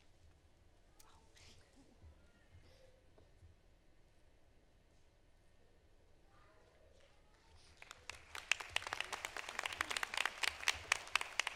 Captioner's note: applause